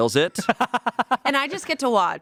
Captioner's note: laughs